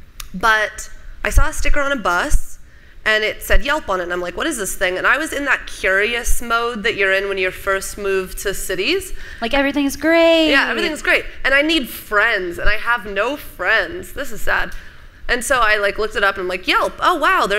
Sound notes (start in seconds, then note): none